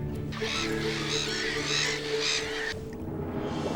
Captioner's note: birds squawking